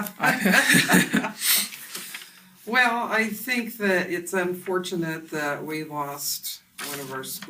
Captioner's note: both laugh